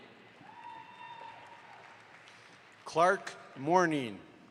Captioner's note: audience applauds